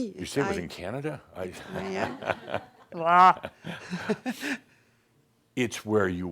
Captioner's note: some chuckles and she chuckles